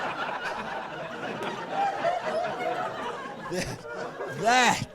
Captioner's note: laughing